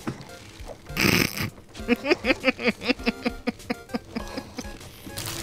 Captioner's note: snorting laughter